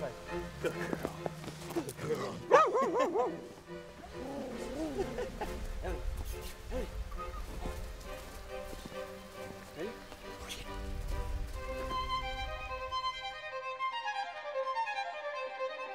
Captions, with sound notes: - High five. Good girl, good girl. (dog barking) Ready? Go get it. (orchestral music)